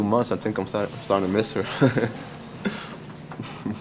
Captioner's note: chuckling